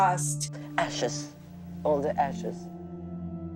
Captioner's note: soundbite of archived recording